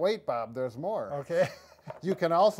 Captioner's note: chuckles